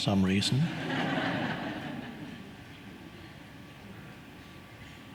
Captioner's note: audience laughing